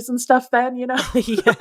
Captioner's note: laughter